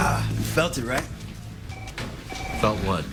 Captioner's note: grunts